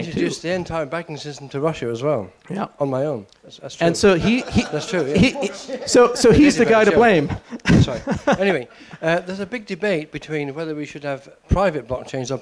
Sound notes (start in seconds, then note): 4.1 laughter; 7.5 laughs